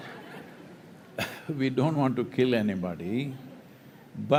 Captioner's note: few laugh